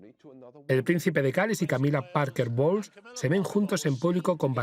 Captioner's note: voiceover